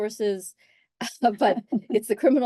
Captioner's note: laugh